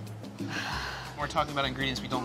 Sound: both sigh

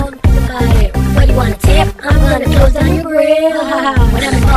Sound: ha-ha

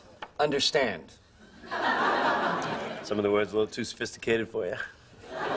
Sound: laugh

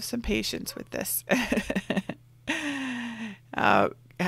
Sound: laughs

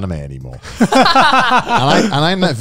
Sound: both laughing

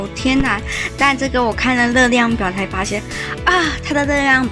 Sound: surprised

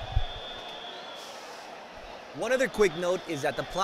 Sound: crowd chattering

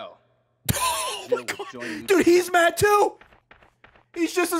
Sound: laughs

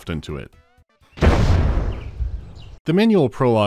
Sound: boosh

